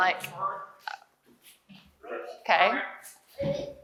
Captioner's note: frog sounds